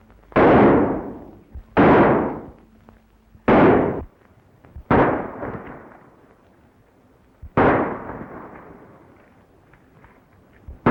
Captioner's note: gunshots